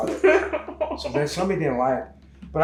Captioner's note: laughs